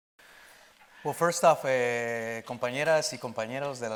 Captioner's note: speaking in Spanish